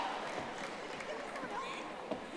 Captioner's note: audience applauding